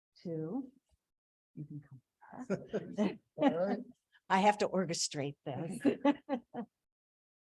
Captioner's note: laughs